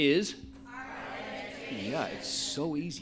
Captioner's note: laughs